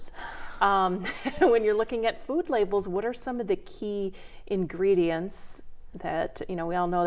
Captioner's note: laughing